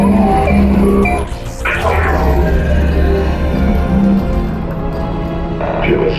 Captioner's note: engine revving